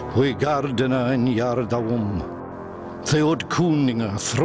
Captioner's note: man speaking Old English